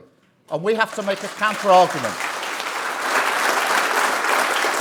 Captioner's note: applause